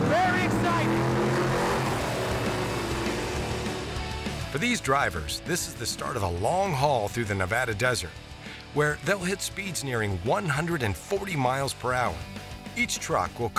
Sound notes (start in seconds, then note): 2.1 engines roaring